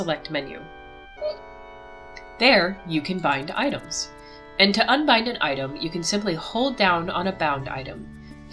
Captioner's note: hiccups